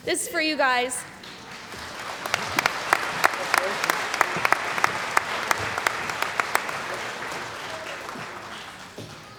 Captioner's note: applause